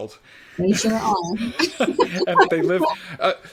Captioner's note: both chuckle